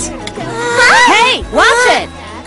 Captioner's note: all shudder